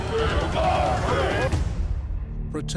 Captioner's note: crowd chanting